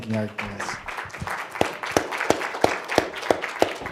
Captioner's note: applause